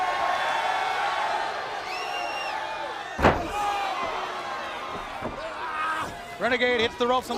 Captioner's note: crowd cheering